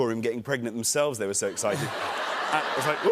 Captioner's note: laughter